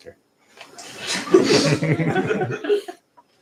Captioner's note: laughter